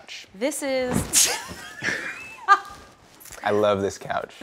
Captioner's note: laughter